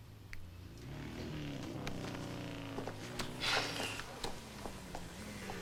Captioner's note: motorcycle engines revving